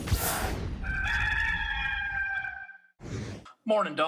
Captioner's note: gamecock crowing